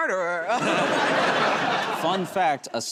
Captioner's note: laughter